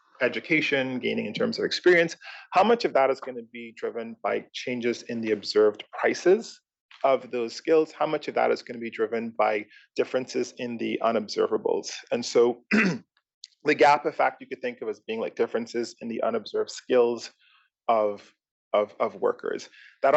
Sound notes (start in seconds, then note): 12.6 cough